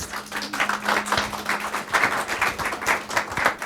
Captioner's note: clapping